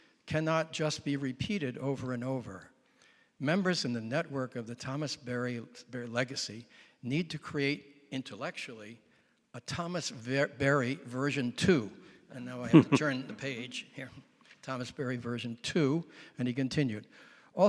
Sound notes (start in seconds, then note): 12.7 audience laughing